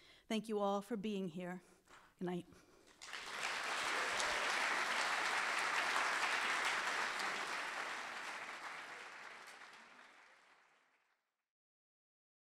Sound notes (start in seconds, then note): 2.9 audience applauding